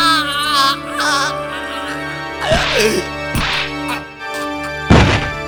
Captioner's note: choking; thud!